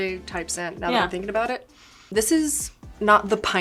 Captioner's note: inhaling